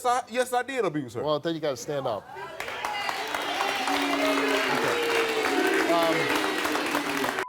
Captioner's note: audience cheering and booing